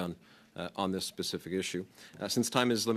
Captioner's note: speaking French